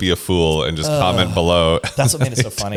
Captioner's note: laughs